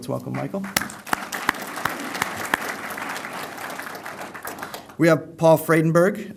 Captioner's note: applause